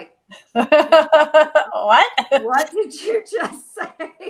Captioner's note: laughing